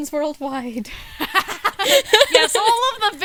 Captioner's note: laughter